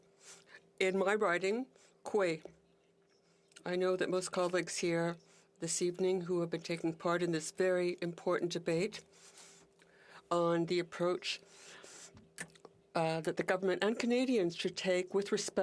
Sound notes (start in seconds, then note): 11.6 speaking Indigenous Language; 12.5 speaking French